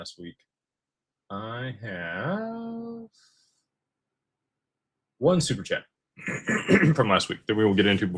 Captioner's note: clears throat